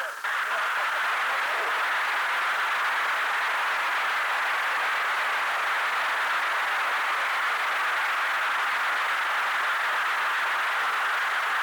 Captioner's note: applause